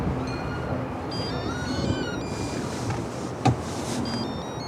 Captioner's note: phone ringing